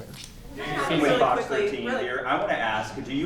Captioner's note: reporters talking